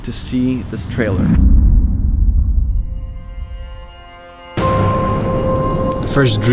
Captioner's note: eerie Noises